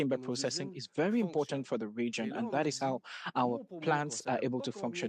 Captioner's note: speaking French